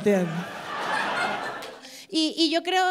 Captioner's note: applause